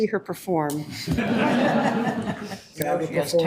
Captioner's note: audience laughing